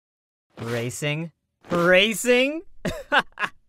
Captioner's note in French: glousser